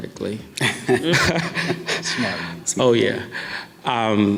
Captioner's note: laughs